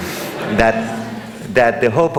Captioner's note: audience laughing